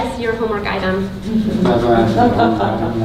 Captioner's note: group laughing